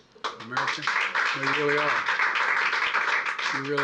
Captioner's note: applause